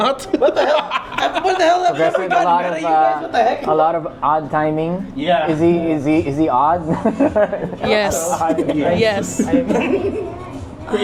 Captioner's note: laughter